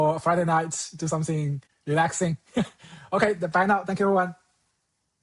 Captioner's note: chuckles